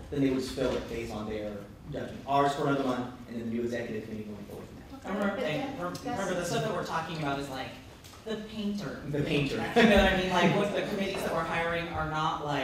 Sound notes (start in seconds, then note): 9.6 laughter